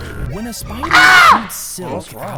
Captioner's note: Big Matt screams